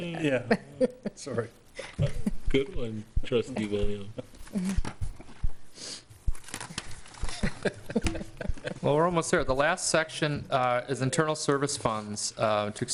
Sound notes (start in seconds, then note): 7.2 laughing